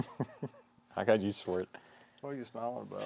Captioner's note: chuckling